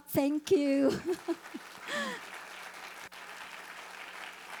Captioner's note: audience applauding